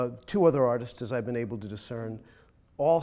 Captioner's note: none